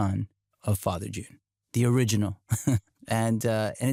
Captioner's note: chuckles